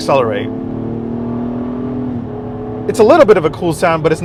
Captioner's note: engine roaring